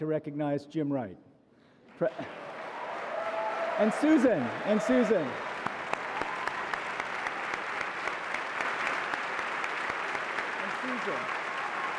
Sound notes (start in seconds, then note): 6.3 audience applauds